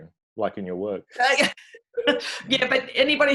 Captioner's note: laughing